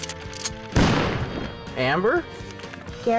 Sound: gunshot

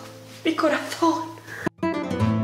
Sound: in spanish

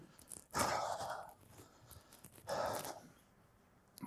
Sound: loudly sighing

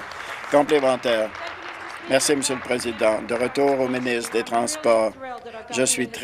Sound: applause

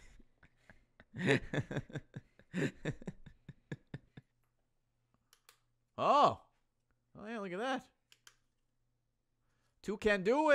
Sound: laughs

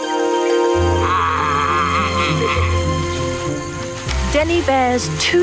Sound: vet imitating bear roaring

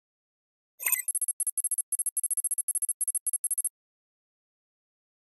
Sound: beep, code running

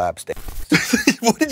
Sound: giggles

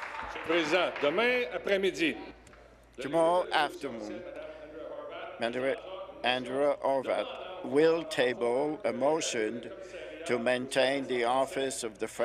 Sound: applause

